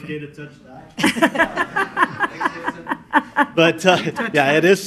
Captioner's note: laughing